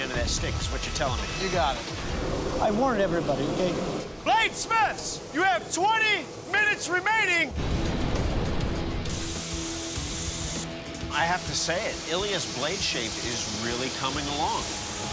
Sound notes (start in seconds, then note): 9.0 machinery whirring